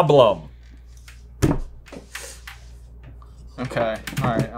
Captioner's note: table thudding